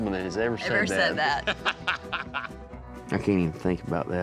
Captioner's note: laughing